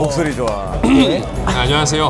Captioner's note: clears throat